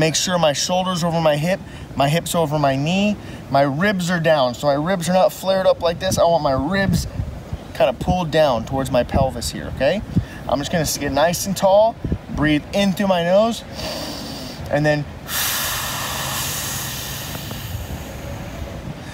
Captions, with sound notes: I wanna make sure my shoulder's over my hip, my hip's over my knee. My ribs are down so my ribs are not flared up like this. I want my ribs kinda pulled down towards my pelvis here. I'm just gonna sit nice and tall, breath in through my nose (inhales) and then (exhales long and slow)